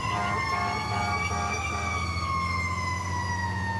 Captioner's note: sirens wailing